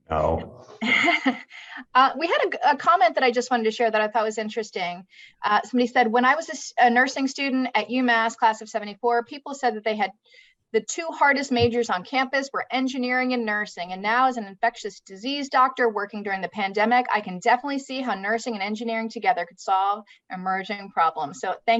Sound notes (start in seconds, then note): 0.8 laughs